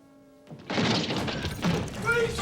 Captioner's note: crash